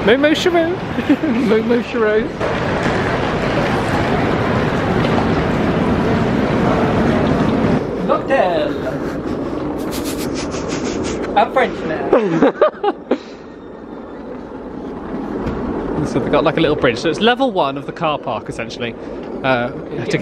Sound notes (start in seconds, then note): 2.9 case wheels rattling; 12.1 laughing